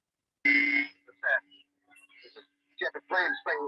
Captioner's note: audio distorting